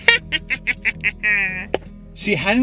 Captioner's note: evil laughing